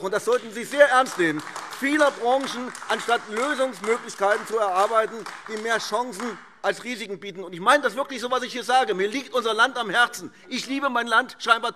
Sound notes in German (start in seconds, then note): 7.5 Beifall AfD